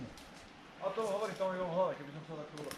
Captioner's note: background talking